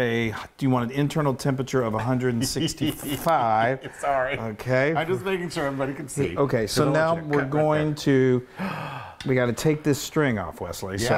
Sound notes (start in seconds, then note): 2.4 laugh